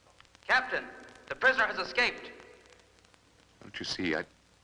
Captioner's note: loudspeaker